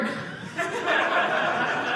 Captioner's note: audience laughing